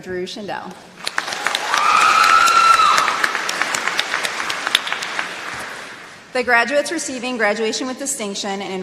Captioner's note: applause